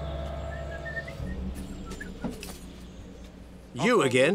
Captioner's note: whistling